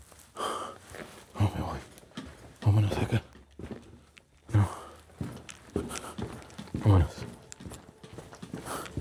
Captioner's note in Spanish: jadeo